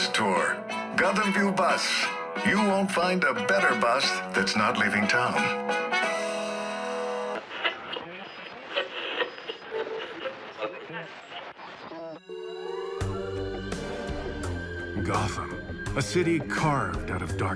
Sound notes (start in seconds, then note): 7.3 radio static; 12.2 smooth music